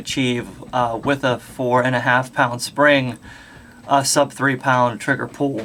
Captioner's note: pound